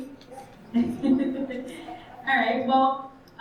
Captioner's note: chuckles